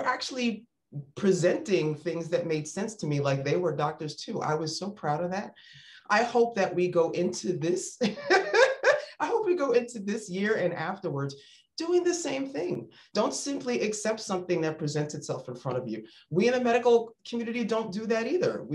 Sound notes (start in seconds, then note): 8.1 laughs